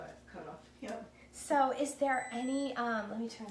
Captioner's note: oven beeping